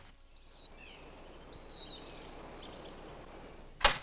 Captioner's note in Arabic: تغريد الطيور